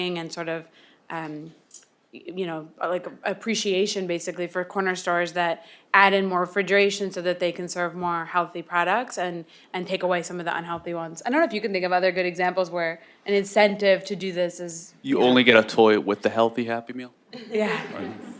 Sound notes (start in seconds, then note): 17.4 laughs